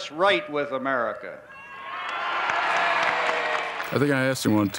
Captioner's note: cheers and applause